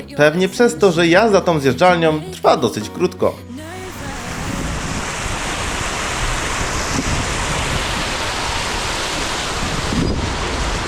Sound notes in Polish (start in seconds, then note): 3.7 odgłos wody